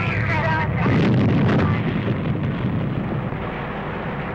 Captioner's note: volcano exploding